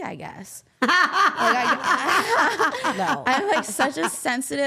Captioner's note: laughing